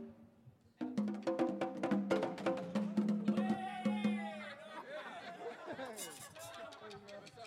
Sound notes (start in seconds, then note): 3.8 all laughing